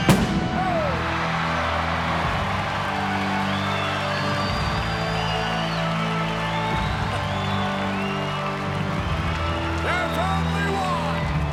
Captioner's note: applause